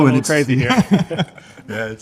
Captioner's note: laughing